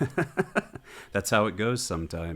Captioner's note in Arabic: يضحك